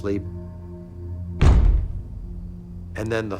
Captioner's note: loud thumping